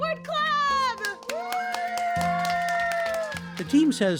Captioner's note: students and teacher cheering and applauding